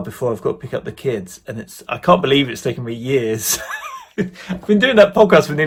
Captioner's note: laughs